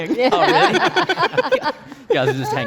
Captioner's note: laughs